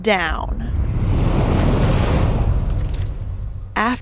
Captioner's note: cosmic wooshing as the shifting mound is devoured by a black hole